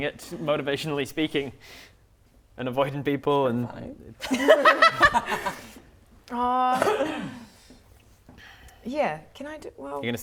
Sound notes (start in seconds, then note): 4.2 laughing